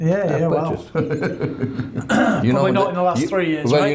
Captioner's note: laughs